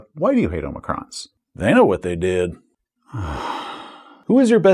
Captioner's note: sigh